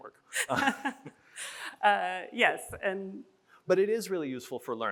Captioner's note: chuckles